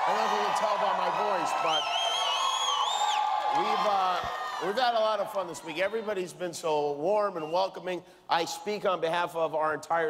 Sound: cheers and applause

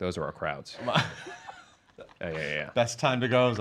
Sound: laughs

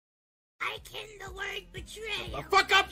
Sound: high-pitched voice

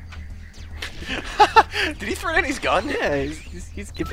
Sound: laughter

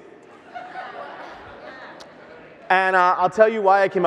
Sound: audience laughs

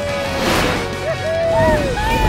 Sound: cheering

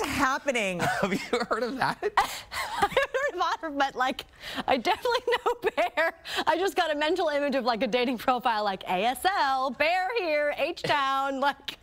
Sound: laughter; laughter

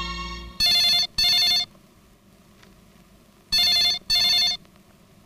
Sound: phone ringing

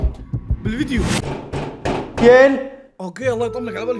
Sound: loud knocking

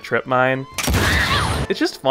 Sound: explosion

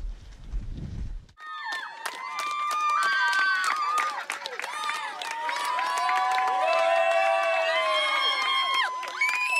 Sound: loud cheers and clapping; cheers and clapping continues

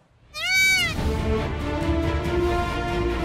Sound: bird squawking; uplifting music

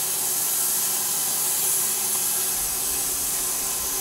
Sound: saw whirring

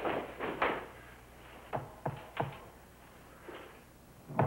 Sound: knock on door

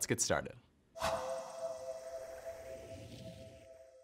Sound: swoosh

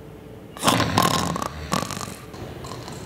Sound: snoring

